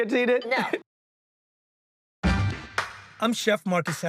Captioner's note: both laugh